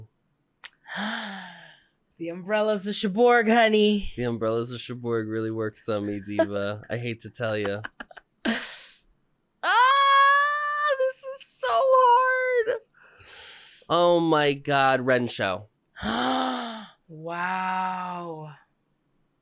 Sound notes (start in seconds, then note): 0.9 gasp; 7.5 giggling; 9.3 screaming; 16.0 gasp